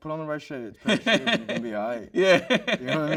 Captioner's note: host chuckles